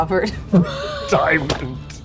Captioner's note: laughing